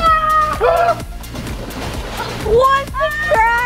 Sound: water splashing

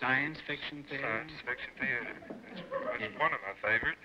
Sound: on phone

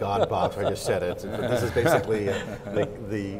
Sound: laughs

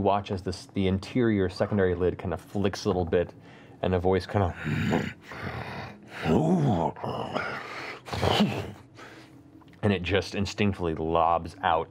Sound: snorting; grunting

